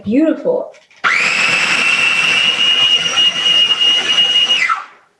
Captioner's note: processor whirring